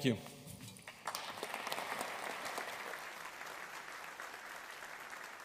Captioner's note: audience applauding